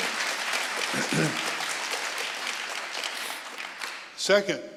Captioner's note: audience applauding